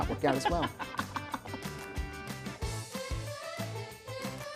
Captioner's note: chuckling